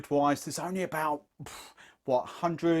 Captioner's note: exhales